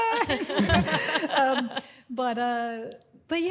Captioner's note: laughs